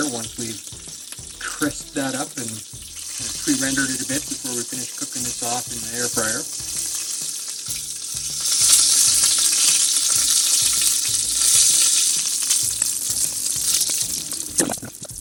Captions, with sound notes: once we've crisped that up and pre-rendered it a bit before we finish cooking this off in the air fryer. (water splashing)